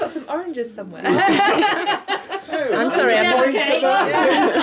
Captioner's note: laughing